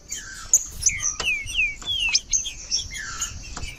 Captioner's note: trinca ferro cantando